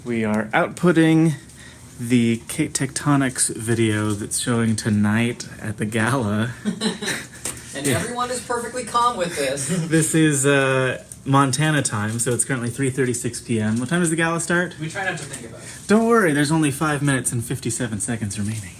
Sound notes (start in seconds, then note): 6.6 laughing